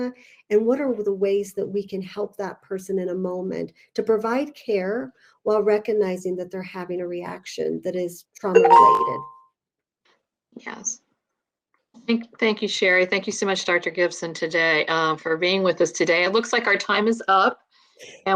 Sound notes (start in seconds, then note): 8.5 computer dinging